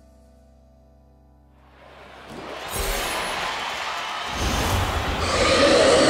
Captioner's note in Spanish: público animando